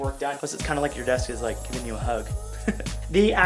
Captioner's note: laughs